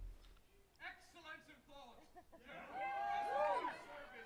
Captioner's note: attendees cheering; faintly speaks